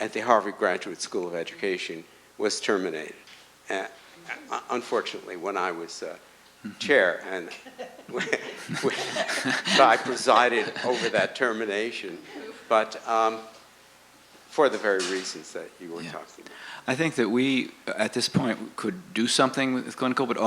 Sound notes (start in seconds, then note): 7.4 laughter